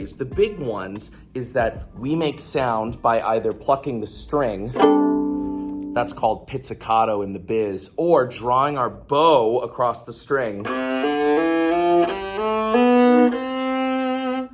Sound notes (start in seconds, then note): 4.7 plunk